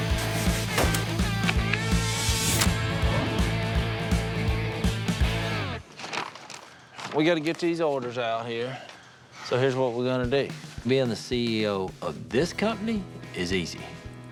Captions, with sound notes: [upbeat rock music] [pages rustling] - We gotta get these orders out here, so here's what we're gonna do. Being the CEO of this company is easy.